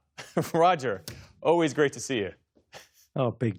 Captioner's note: laughter